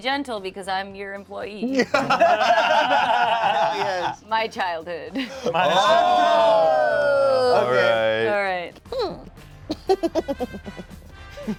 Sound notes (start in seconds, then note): 1.8 cast laughs; 5.2 cast exclaims; 10.0 laughs